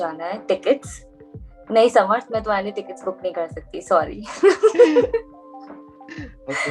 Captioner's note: both laugh